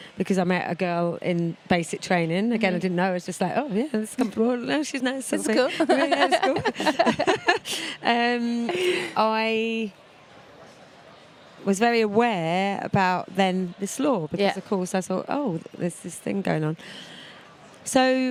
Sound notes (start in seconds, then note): 8.4 laughing